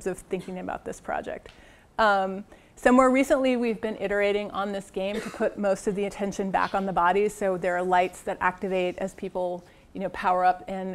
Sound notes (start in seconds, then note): 0.4 cough; 5.0 cough